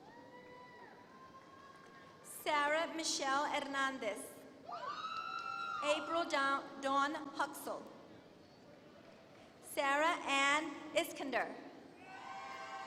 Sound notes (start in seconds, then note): 5.0 applause